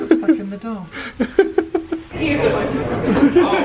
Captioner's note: laughing